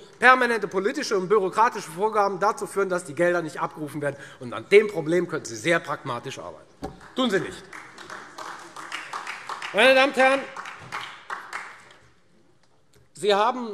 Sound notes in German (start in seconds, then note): 7.0 Beifall Freie Demokraten und AfD